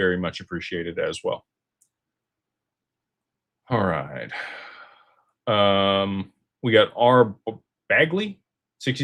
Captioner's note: sighs and gasps